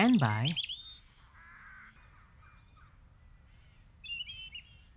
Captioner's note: birds chirping